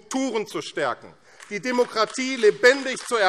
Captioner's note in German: Beifall AfD